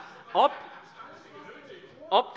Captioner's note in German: Heiterkeit